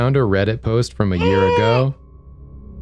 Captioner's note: concerned grunt